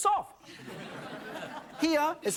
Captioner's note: audience laughs